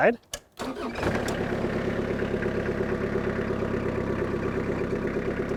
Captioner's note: skid steer engine roaring